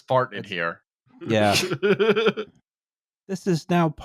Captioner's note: laughs